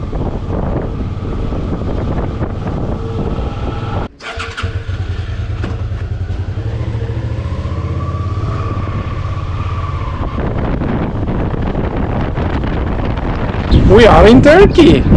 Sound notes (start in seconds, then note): 4.1 engine turns on; 5.8 motorbike noise